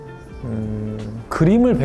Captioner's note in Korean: 으으음